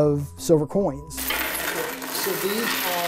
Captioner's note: coins jangling